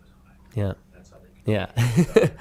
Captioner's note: laughing